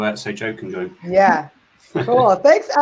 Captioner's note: laugH